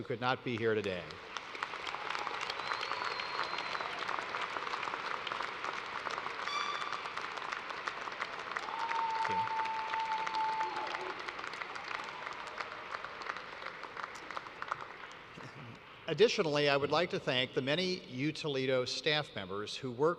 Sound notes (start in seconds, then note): 5.3 applause